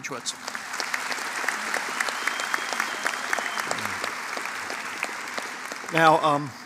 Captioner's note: applause